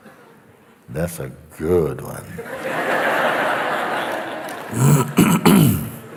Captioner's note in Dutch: gelach